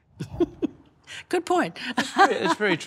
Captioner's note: laughs